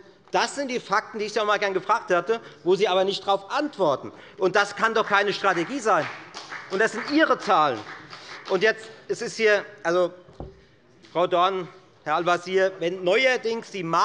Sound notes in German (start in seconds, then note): 9.3 Beifall bei der FDP